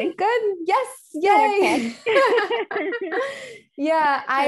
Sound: both laughing

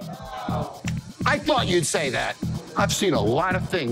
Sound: claps

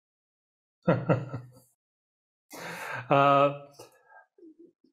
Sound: chuckles

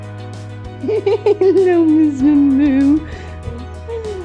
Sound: laughing

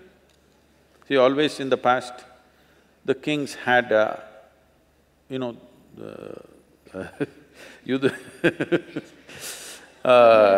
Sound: laughs

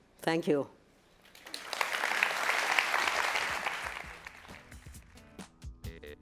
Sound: applause

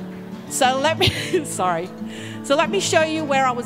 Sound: laughs

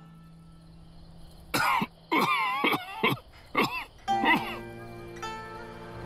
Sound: cough

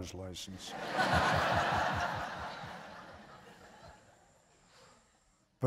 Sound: laughter

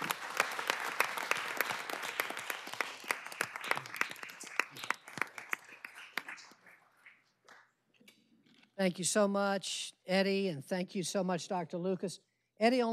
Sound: applause

